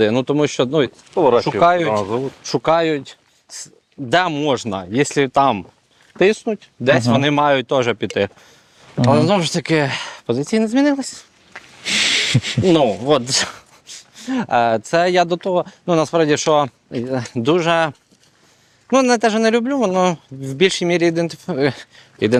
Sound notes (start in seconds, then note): 11.8 laughs